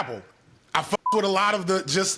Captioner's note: beep